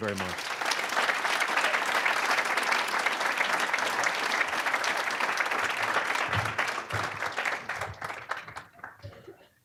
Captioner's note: applause